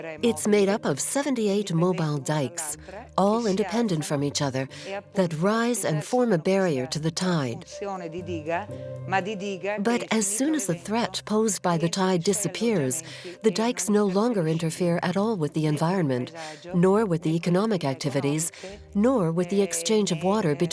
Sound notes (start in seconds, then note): 0.0 Italian spoken audio; 7.8 Italian spoken audio